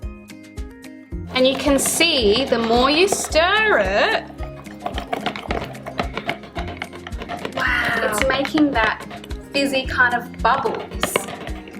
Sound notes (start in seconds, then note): 4.6 wooden spoons rattling